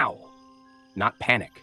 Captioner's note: pause